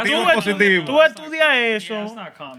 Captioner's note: non-english Speech